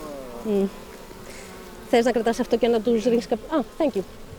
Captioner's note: speaking greek